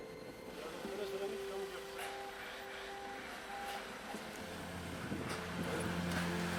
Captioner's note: speaking foreign language; dramatic music